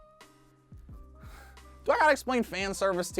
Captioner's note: sighs